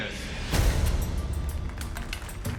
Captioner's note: applause